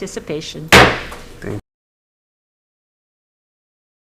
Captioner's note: gavel bangs